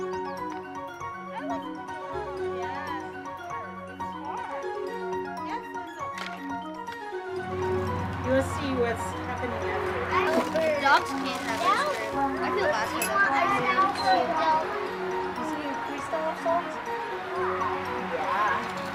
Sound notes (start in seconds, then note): 13.4 children chatting